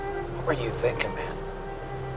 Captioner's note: speaking Chinese